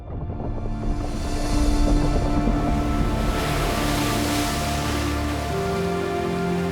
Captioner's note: rocks rumbling and water splashes